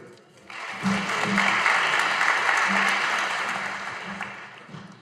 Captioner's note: audience applauding